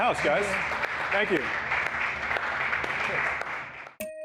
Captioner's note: applause